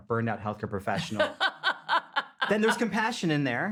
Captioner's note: laughing